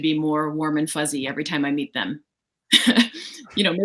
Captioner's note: laughs